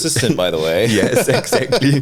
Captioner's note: laughs